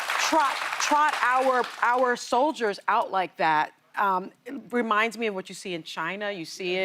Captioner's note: applause